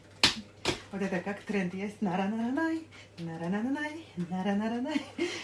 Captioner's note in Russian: смех